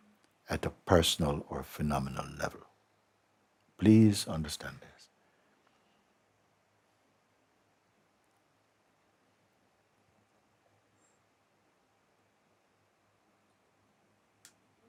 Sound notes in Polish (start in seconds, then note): 6.9 cisza